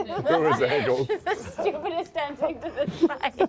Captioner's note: laughing